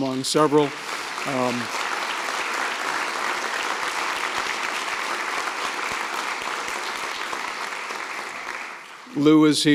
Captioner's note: applause